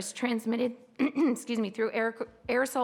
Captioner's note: clear throat